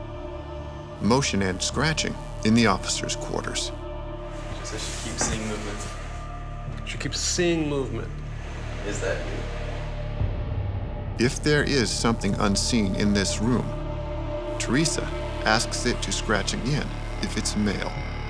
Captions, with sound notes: Motion and scratching in the officer's quarters. - She said she keeps seeing movement. - She keeps seeing movement? - [Voiceover] If there is something unseen in this room, Theresa asks it to scratch again if it's male